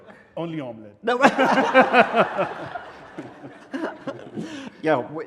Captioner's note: laughing